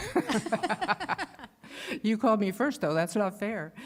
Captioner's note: laughter